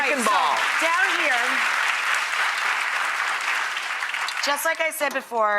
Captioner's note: applause